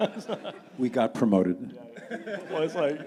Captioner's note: audience laughing